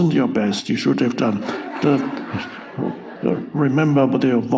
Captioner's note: audience laughs